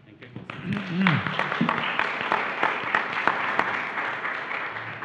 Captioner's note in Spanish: Aplausos